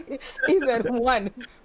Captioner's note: laughing